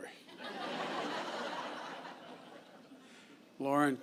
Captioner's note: laughter